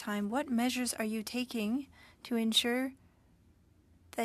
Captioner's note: speaking French